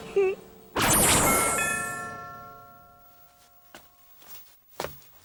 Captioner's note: doorbell rings